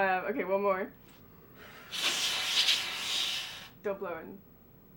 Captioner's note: blowing air